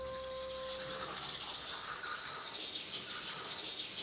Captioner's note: water trickling